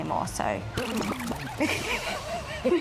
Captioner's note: record scratching; both laughing